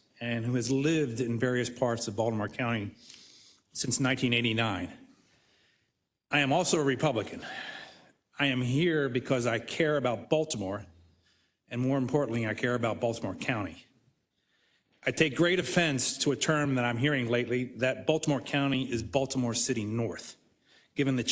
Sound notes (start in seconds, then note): none